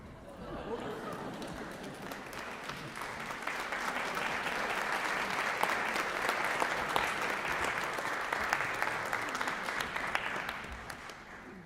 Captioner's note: applause